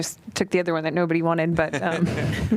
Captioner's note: laughter